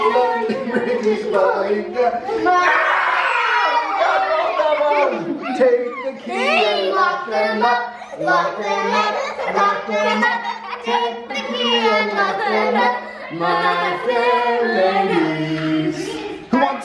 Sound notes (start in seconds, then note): 2.4 kids laugh; 2.4 screams